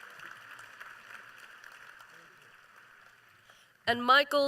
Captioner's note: applause